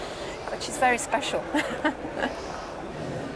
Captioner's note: laughs